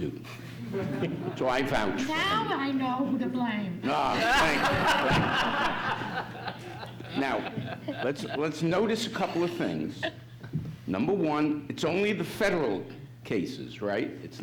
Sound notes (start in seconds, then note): 3.9 audience laughs